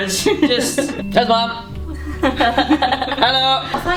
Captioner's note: laughing